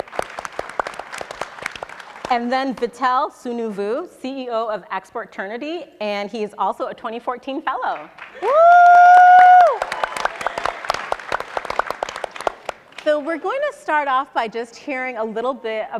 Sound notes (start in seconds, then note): 0.0 audience and panelists applauding; 8.1 cheering and applauding; 10.6 audience and panelists applauding